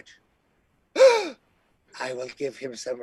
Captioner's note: gasp